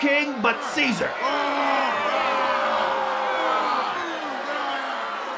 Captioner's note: crowd yelling